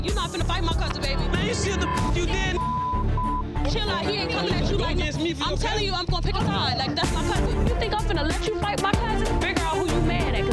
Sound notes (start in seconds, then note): 2.5 beep; 2.5 beeps